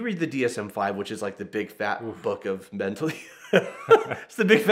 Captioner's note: laughs